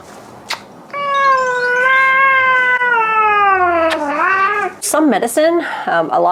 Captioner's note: cat meowing; lips smacking